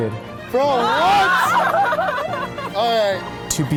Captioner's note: crowd laughing